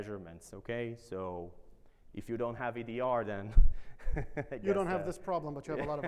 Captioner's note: laughs